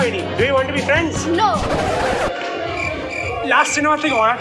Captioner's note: crickets chirping